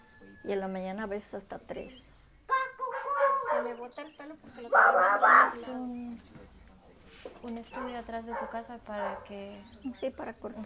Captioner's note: rooster and dogs